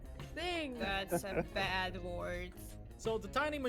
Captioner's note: laughs